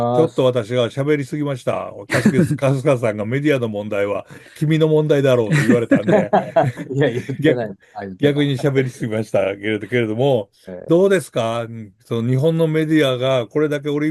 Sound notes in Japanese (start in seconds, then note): 5.4 笑い